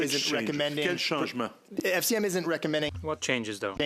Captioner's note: speaking French